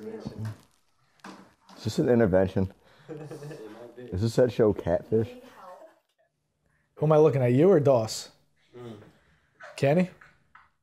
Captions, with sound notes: Is this an intervention? (laughs) Is it said, show catfish? - Who am I looking at, you or Doss? Kenny?